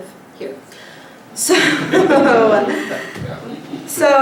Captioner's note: laughter